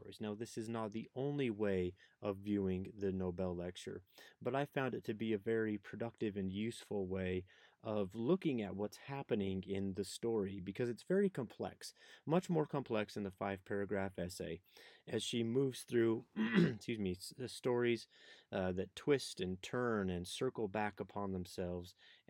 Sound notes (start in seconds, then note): 16.3 throat clearing